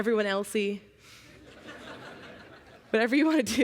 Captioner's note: laughter